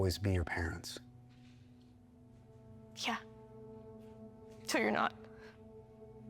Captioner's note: breathes uneasily